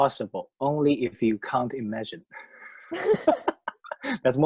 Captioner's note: laughs